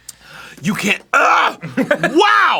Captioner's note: screams